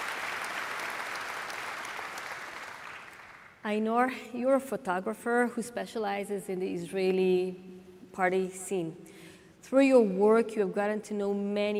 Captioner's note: applause